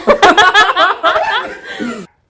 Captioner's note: laughs